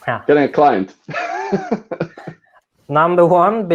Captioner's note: laughing